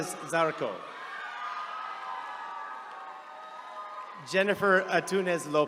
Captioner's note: attendees cheering